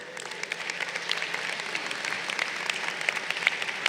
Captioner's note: crowd applauding